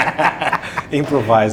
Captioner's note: laughing